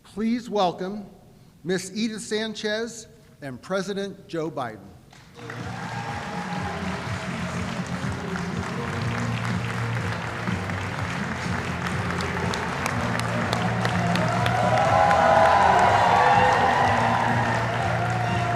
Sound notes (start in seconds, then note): 5.1 applause